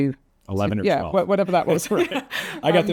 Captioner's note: laughs